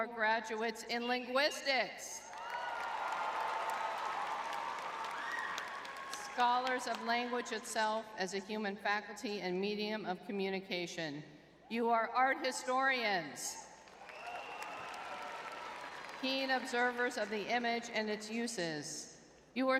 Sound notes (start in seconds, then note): 2.3 audience cheering; 13.9 audience cheering